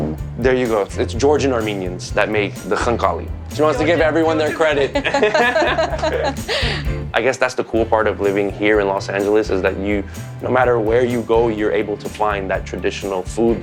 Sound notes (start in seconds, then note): 3.5 laughing